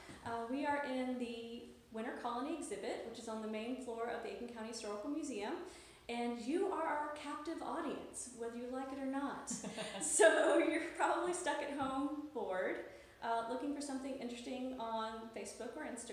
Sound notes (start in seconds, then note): 9.5 laughs